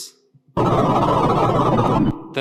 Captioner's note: distorted electronic beeping